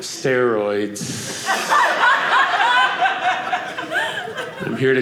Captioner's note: audience laughing